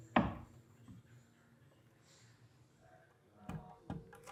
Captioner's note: wood thudding